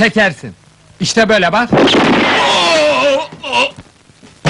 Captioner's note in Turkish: tabanca gürültüyle patlar